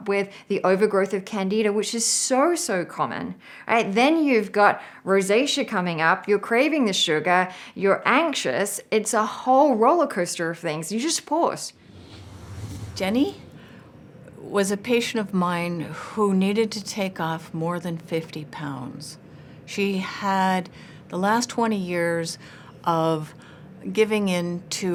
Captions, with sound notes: with the overgrowth of Candida, which is so, so common. Alright, then you've got rosacea coming up. You're craving the sugar, you're anxious. It's a whole rollercoaster of things. You just pause. (whooshing) - Jenny was a patient of mine who needed to take off more than 50 pounds. She had the last 20 years of giving in to foods